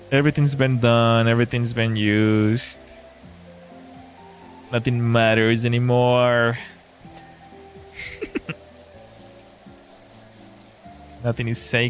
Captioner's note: laughter